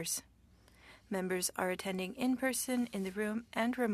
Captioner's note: speaking French